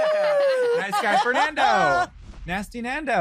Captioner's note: cheering, laughing